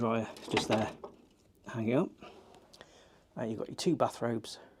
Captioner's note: hangers clattering